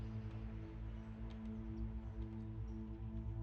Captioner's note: none